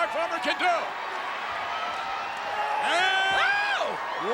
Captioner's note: crowd cheering